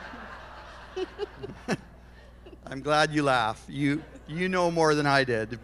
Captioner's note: laughter